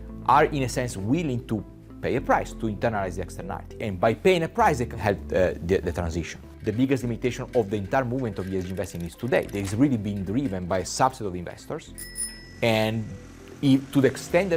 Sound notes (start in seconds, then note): 6.6 bicycles rattling; 9.1 text clicking; 11.9 bell dinging; 13.0 motor roaring